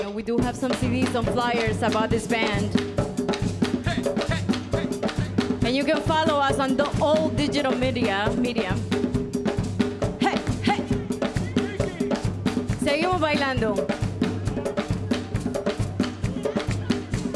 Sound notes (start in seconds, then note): 13.0 speaks in Spanish